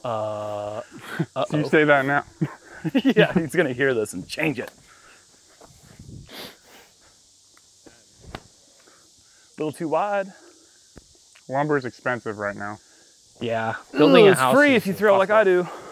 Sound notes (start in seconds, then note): 0.8 laughs; 4.8 silence